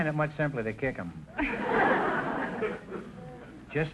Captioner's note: audience laughter